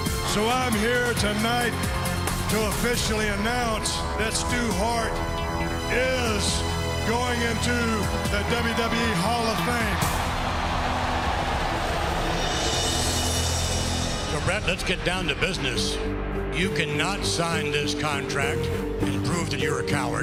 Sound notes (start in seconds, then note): 7.0 crowd cheering